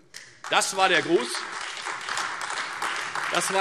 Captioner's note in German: Beifall Freie Demokraten und AfD